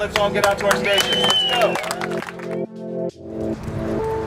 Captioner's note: clapping and cheering